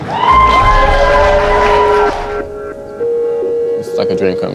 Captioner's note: spectators applauding